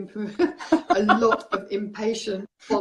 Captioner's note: laughing